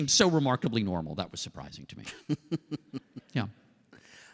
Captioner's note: laughter